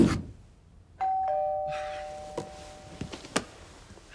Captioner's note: doorbell rings